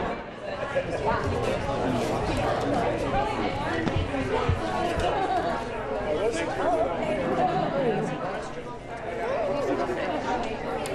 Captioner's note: indistinct chatter